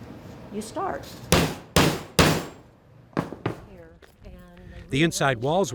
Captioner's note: hammer thudding